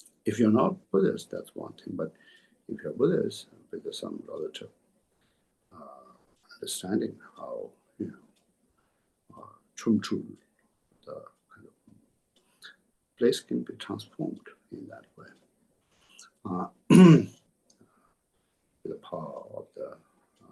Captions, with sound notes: If you're not Buddhist, that's one thing. But if you're Buddhist and because of some relative understanding how chö-trul [Tibetan], a place can be transformed in that way, with the power of the